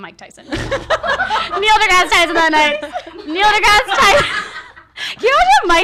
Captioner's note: laughs